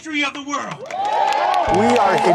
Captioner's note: crowd cheering